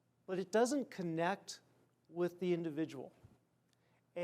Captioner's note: none